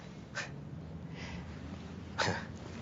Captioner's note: laughs